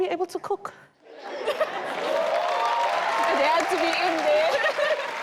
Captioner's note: audience cheers